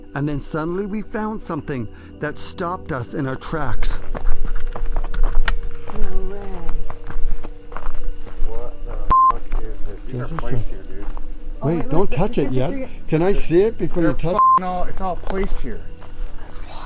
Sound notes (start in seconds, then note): 4.3 footsteps thumping; 9.1 beep; 14.3 beep